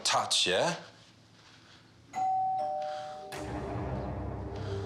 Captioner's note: doorbell rings